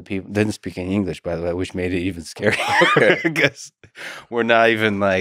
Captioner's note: laughs